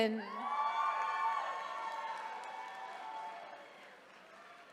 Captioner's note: attendees cheering